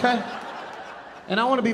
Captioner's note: audience laughing